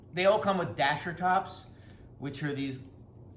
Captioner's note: none